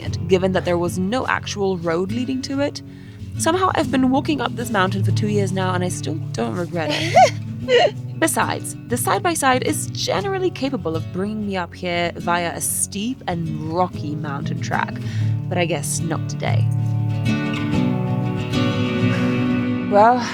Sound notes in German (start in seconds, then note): 7.6 lacht; 16.4 Lebhafte Musik